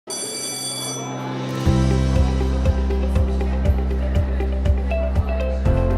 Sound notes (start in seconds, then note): 0.0 bell ringing; 1.3 upbeat inspirational music